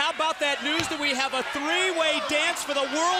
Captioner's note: crowd chatter